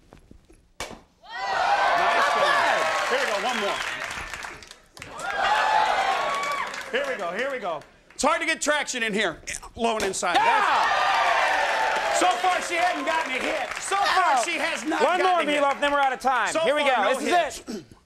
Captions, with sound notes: (audience clapping) Here we go, one more. Here we go, here we go. It's hard to get traction in here. Lawn inside. (audience cheering) So far she hadn't gotten a hit. So far she has not gotten a hit. One more, we are running out to time, here we go.